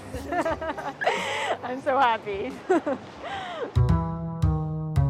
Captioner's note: laughing